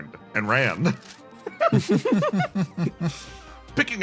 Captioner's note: laughs